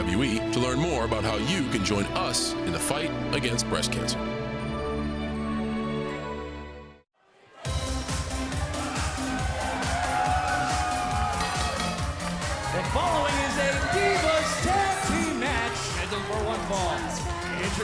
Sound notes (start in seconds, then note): 7.2 crowd cheering; 11.3 bell ringing